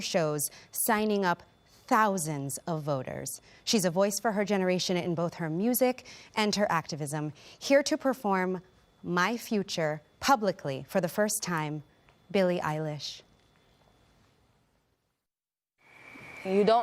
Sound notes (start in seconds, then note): none